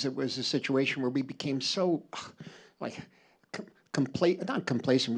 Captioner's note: scoffs